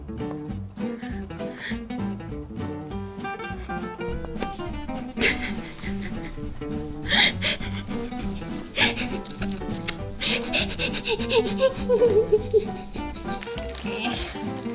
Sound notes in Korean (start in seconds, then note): 5.0 웃음 소리